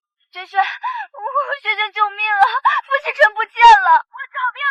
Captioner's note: sob